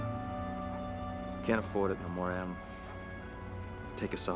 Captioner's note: change rattles